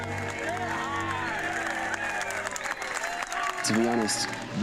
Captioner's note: cheering